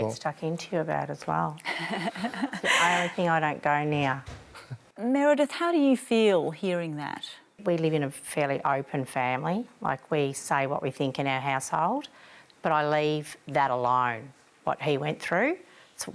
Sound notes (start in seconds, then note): 1.6 laughs